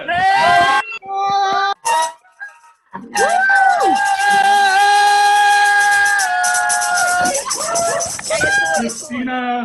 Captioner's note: cheering